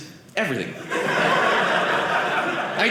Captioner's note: audience laughing